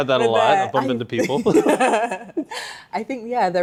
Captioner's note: laughing